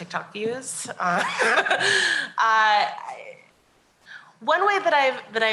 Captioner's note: laughs